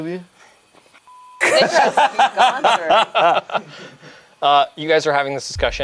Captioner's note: beeps; group laughs